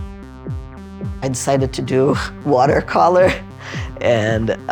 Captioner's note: laughing